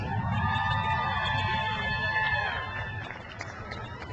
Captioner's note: crowd cheers